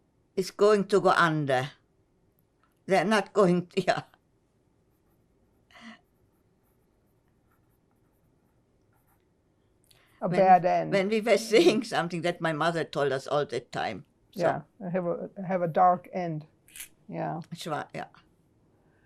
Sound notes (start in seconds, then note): 17.0 yiddish